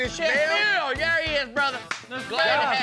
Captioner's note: claps hands